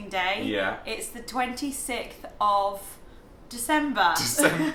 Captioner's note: laughs